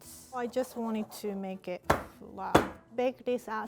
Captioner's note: pan tapping